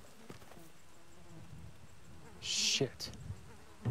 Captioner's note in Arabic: الذباب يطن